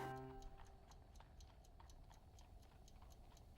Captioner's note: clock ticking